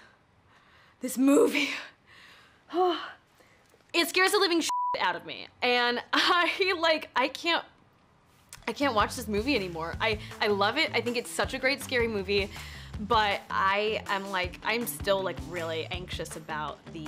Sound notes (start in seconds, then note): 4.6 beep